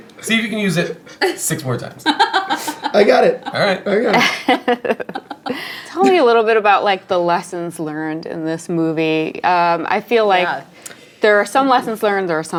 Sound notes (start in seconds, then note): 2.0 laughing